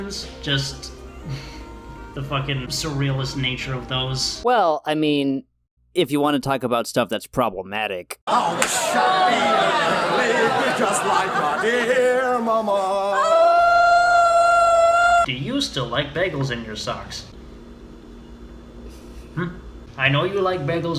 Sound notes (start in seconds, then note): 0.8 laughs; 13.1 woman wails monophonically; 18.9 laughs quietly